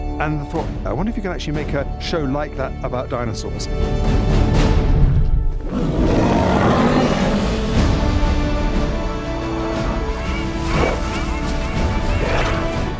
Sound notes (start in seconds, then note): 5.6 roaring